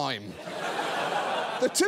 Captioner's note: audience laughs